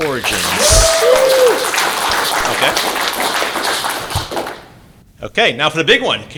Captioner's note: applause